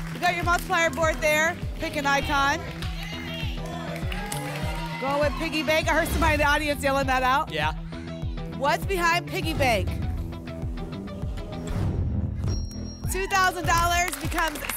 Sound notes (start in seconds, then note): 2.9 audience shouting icons; 11.6 whoosh